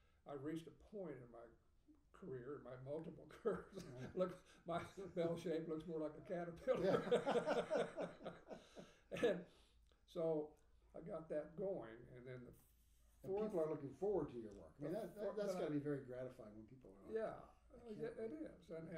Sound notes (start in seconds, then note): 4.1 speaking faintly; 6.7 laughing